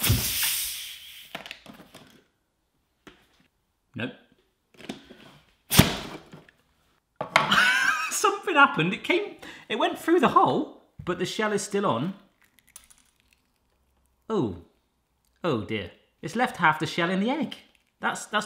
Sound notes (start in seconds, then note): 0.0 thump and hiss; 5.8 loud thump